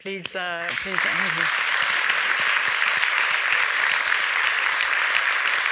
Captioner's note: audience applauding